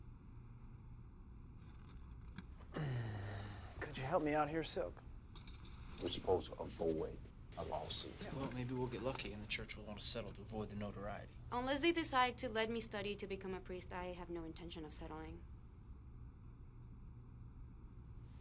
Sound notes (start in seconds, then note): 2.7 uncomfortable sigh